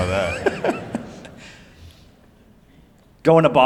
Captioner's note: laughter